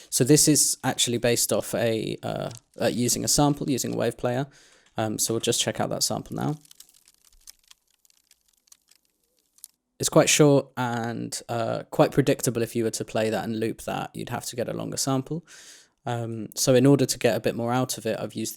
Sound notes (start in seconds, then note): 6.9 high crinkly ASMR vibes